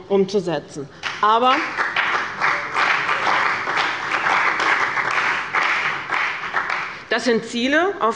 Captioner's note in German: Beifall bei dem BÜNDNIS 90/DIE GRÜNEN und der CDU